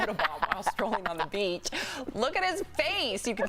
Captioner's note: laughter